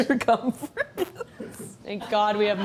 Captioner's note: chuckles